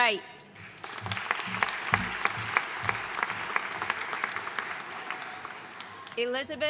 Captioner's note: audience applauding